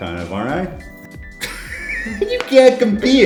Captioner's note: laugh